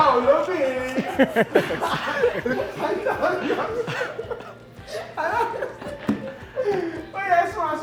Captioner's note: everyone laughs